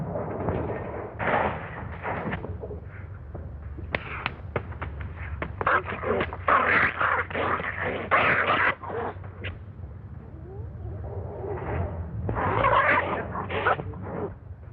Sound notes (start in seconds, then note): 5.6 snarling, growling